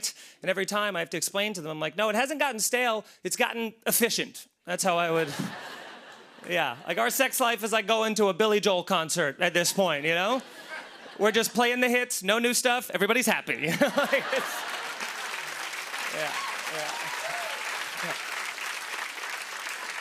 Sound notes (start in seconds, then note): 5.1 laughter; 9.6 laughter; 13.6 laughter and applause